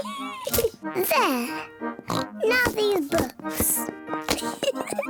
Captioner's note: laughs; oinks